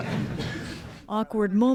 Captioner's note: laughter